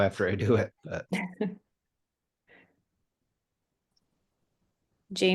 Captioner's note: laughs